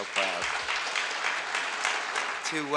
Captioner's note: audience applauds